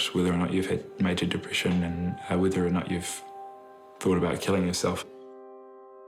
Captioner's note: none